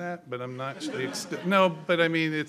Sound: laughter

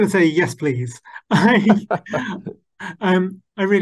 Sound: laughing

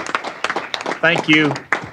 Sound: applause

